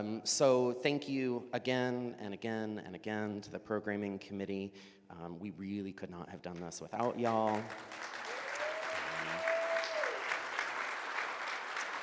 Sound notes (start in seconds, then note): 7.0 audience applauds